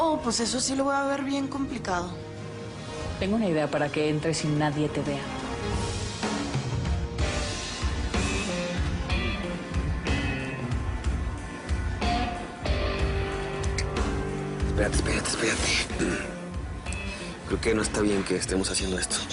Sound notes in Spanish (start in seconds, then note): 15.9 Carraspea